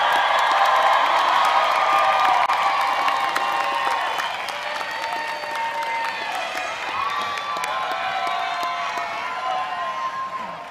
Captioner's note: applause